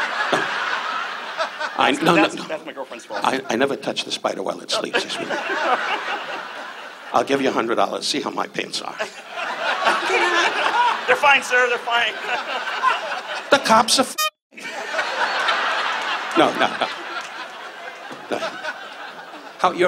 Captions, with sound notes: (audience laughs) - That's my girlfriend's fault. - I never touched the Spider while it sleeps. (audience laughs) I'll give you a hundred dollars, see how my pants are. (audience laughs) - They're fine, sir, they're fine. (laughs) (audience laughs) - The cop's a fag. (audience laughs) No, no. (audience laughs) No.